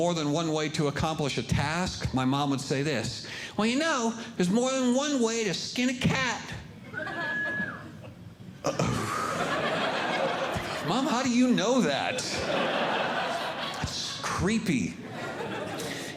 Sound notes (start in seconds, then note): 8.7 groaning; 8.7 audience Laughing